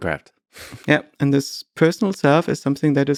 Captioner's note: Lex chuckles